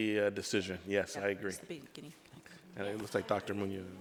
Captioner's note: overlapping chattering